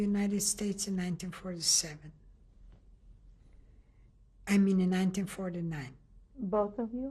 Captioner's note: pauses for 3 seconds